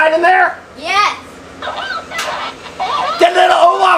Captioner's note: doll murmuring